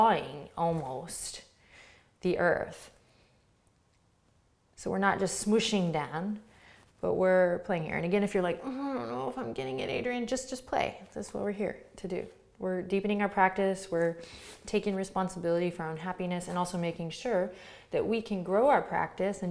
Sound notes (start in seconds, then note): 8.7 groans